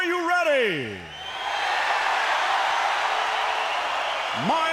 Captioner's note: crowd cheering